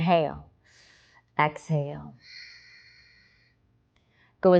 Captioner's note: exhaling